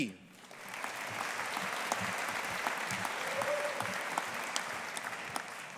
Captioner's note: audience applauding